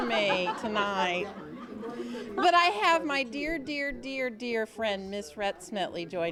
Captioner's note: �laughing�